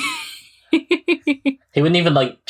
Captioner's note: laughs